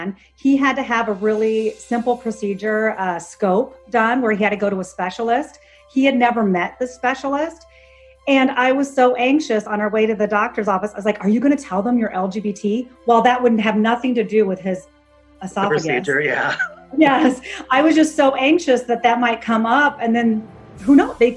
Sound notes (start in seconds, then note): 15.6 laughs